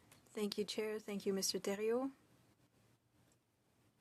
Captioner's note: speaking French